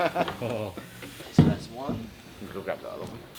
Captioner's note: laughing